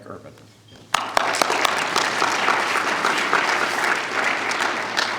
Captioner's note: applause